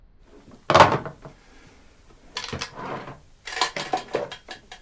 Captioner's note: phone thuds